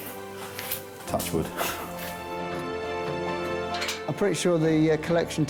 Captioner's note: chuckles